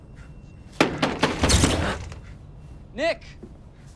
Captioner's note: thudding